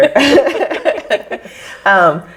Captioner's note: all laugh